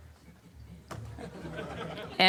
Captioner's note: laughter